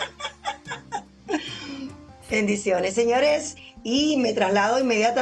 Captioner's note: laughs